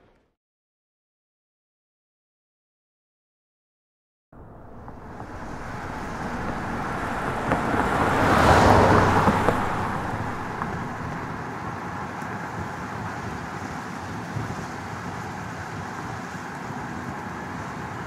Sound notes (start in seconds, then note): 4.3 car Drive